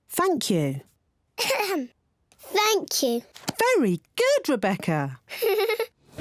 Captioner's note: clears throat; giggles